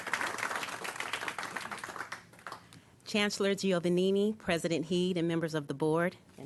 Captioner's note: applause